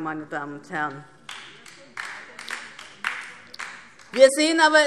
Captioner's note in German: Beifall DIE LINKE